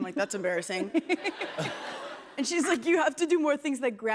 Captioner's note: laughter